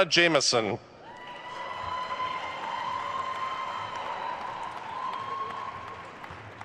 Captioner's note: attendees cheering and applauding